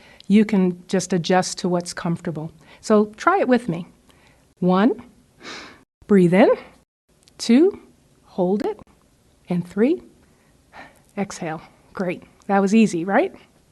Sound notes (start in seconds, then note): 5.4 inhales; 10.2 exhales